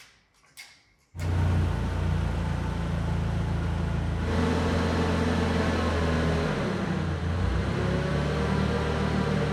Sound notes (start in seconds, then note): 1.2 forklift engine running